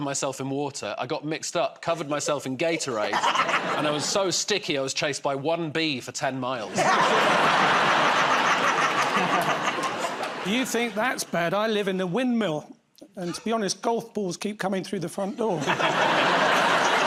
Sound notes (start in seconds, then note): 6.7 laughter